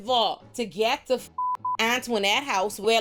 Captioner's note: beep